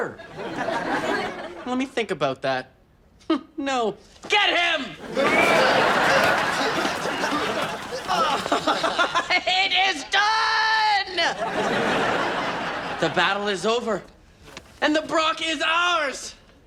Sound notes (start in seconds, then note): 0.0 audience laughs; 7.8 laughs; 11.2 audience laughs